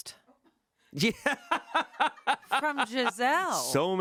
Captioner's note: laughs